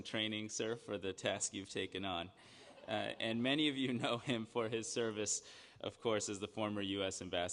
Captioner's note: laughter